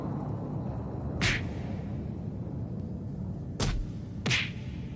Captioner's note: loud pounding